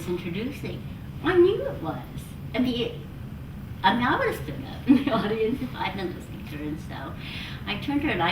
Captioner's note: laughs